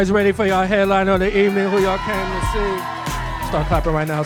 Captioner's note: audience cheering